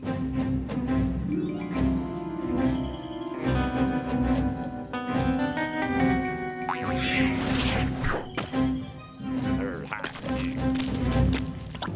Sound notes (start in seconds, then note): 6.6 legs boing